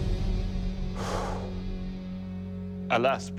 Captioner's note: exhales deeply